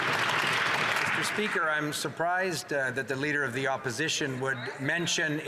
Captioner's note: some Applause